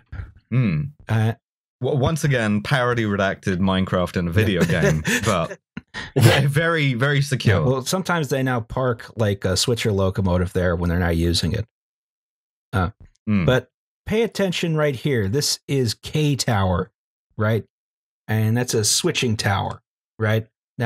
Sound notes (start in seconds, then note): 4.4 laughter